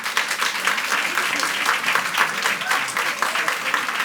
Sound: audience applauds

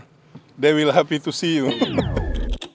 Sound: laughs

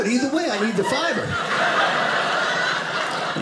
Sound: audience laughing

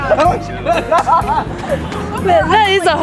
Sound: laughter

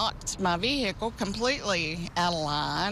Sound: nats of cars driving b

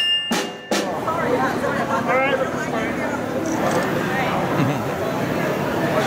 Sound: general crowd sounds, no dialogue

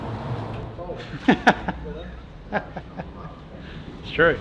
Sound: laughing

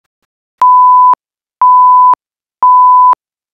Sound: 3 beep sounds

